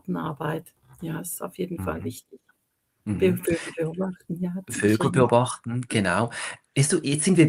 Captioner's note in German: räuspern